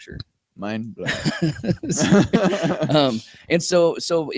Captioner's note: laughter